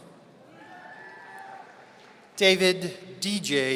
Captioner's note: audience cheering